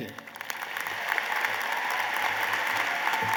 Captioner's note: applause